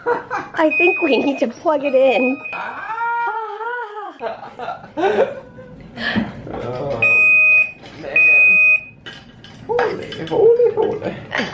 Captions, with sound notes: I think we need to plug it in (both laugh) (BEEP! BEEP!) holy holy holy!